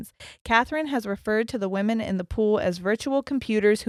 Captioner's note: none